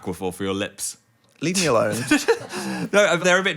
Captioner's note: laughing